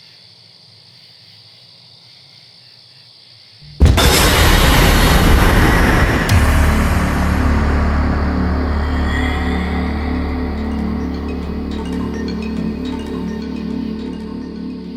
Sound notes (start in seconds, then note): 5.1 jarring sound; 9.4 suspenseful music